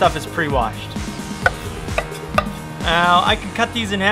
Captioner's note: cutting